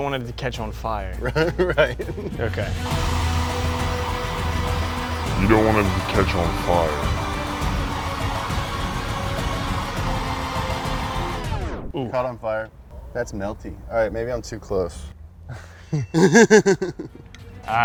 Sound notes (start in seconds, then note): 3.3 action music; 3.3 blowtorch gas roars; 15.5 laughing